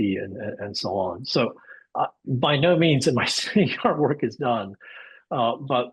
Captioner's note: laughs